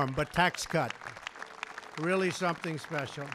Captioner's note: applause